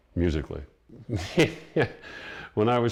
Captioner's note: laughs